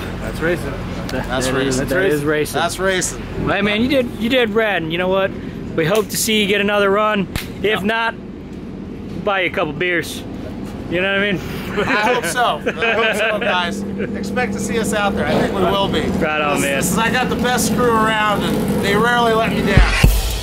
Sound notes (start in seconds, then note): 11.6 laughter